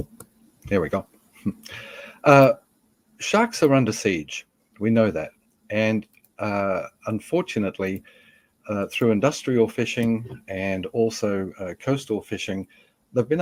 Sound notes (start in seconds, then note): none